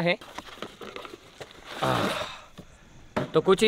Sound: unwrapping

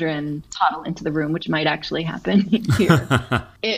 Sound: laugh

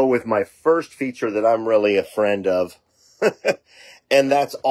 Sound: laughing

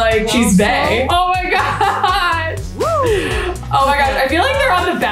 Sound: laughs

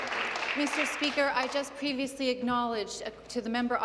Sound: some Applause

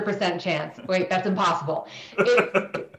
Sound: laughing

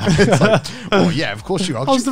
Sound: all laughing

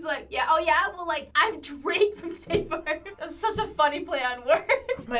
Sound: laughs

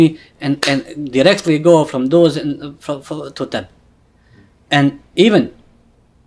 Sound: slaps leg

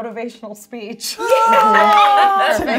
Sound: all cheering

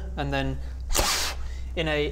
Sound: pffffff; tzzzsck

